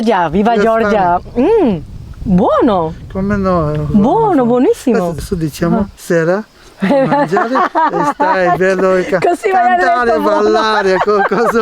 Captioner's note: laughs